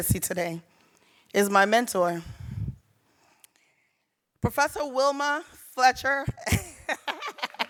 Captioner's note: laughs